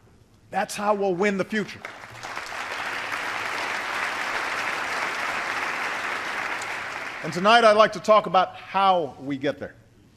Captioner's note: applause